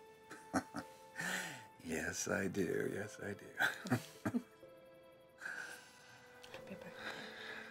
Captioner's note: chuckling